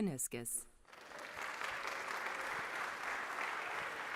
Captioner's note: clapping